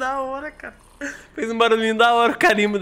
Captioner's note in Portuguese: risos